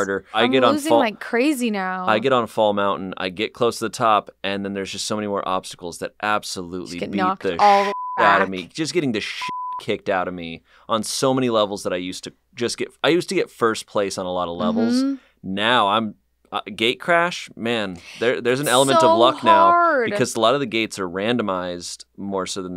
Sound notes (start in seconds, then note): 7.5 beep